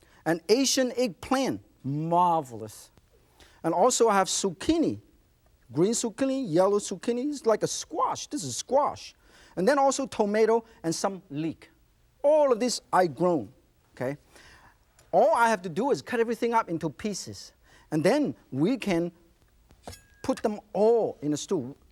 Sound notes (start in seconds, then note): none